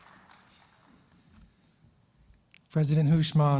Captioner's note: applause